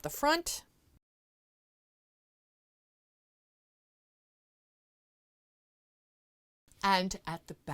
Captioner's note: no Sound Present